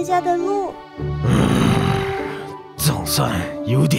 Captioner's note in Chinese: 叹息